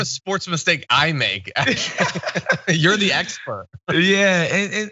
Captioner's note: laugh